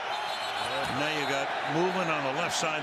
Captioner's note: whistle blows